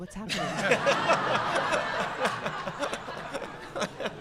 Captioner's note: audience laughing